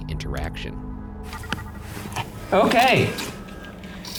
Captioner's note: device trilling